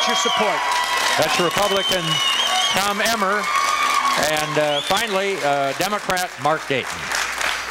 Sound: applause

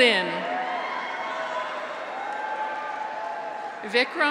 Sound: graduates cheer; audience applauds

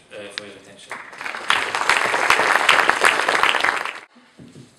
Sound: people applauding

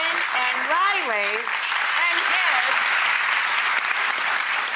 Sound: audience applauds

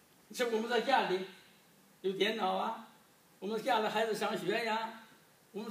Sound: speaking foreign language

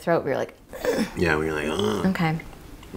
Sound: grunt; groan

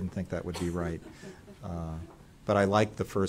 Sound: laughter

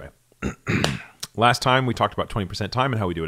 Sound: clears throat

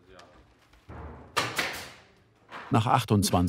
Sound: loud tacker noise

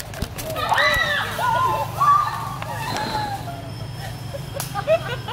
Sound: terrific screams meaning : "I want to see my mom"

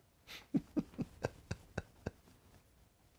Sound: laughs

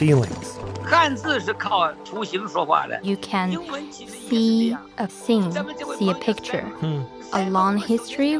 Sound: speaking Mandarin

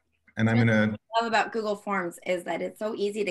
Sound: crackling drowns out

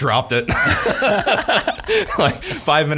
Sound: laughs

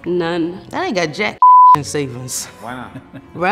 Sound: beep

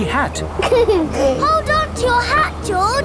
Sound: giggles

